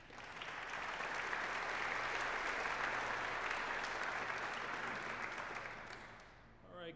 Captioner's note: applause